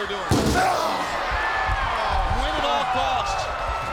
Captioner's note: steel stairs thudding; Goldberg grunting